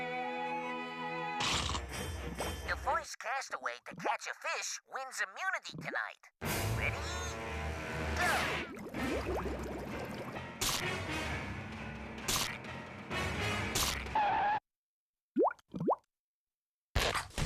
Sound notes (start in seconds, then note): 14.0 skidding